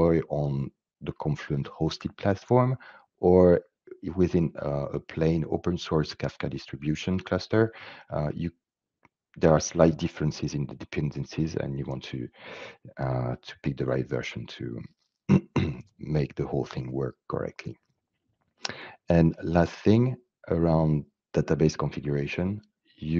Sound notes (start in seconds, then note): 15.3 clears throat